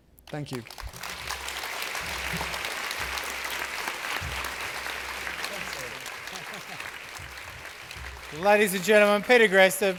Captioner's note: applause